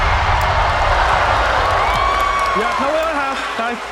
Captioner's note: cheering